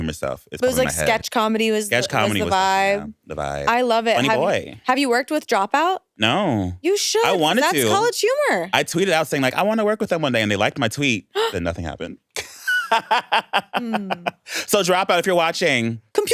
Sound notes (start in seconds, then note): 12.3 laughs